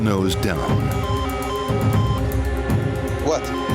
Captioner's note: beeping